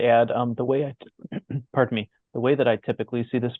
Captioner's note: coughs